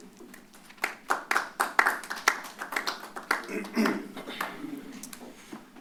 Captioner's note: applause